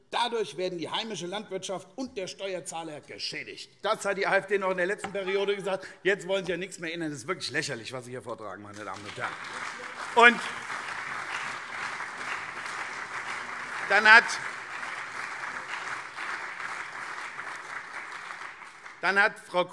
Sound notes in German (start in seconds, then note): 8.6 Beifall CDU und SPD